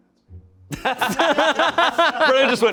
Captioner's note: everyone laughs